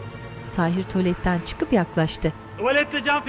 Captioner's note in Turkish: Müzik - Arabesk; Araba sesleri